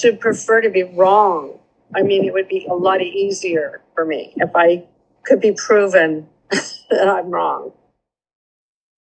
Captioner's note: laughter